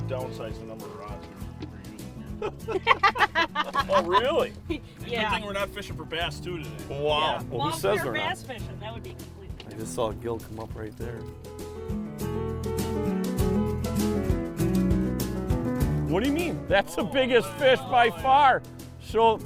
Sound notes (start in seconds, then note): 0.0 lighthearted music; 2.1 laughing; 7.2 voiceover